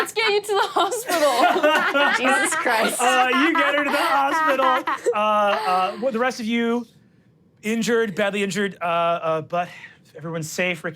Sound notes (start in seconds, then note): 0.8 everyone laughs